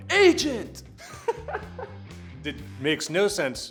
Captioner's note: laughing